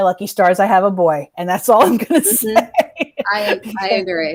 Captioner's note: laughs